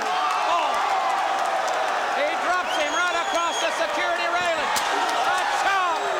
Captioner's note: applause